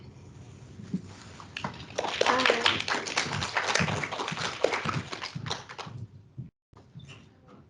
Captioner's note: clapping